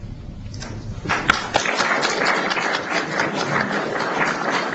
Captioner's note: applause